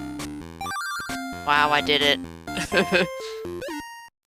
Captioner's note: laughs